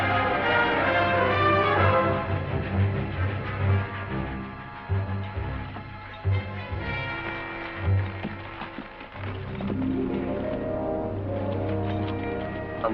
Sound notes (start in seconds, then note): 4.8 bell